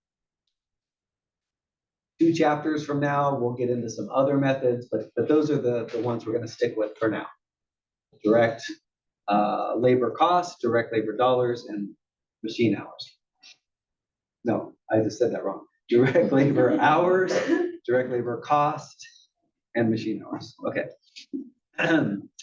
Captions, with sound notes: Two chapters from now, we'll get into some other methods, but those are the ones we're gonna stick with for now. Direct labor costs, direct labor dollars and machine hours. No, I just said that wrong. [LAUGH] >> [LAUGH] >> Direct labor hours, direct labor cost and machine hours, okay.